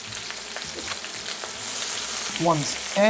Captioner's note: sizzling sound